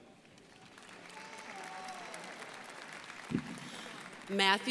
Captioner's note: crowd applauding